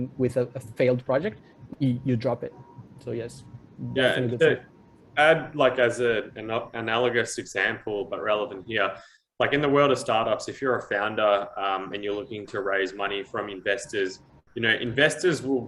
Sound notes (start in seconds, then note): none